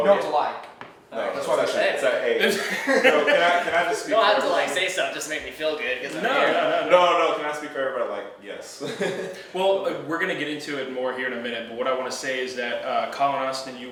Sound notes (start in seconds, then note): 2.3 laughing